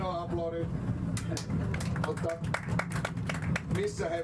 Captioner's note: applause